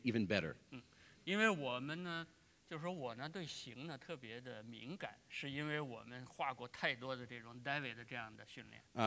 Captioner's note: speaking in Chinese